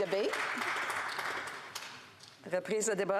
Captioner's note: applause